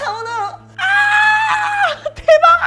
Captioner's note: screaming